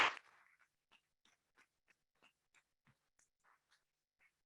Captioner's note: members clapping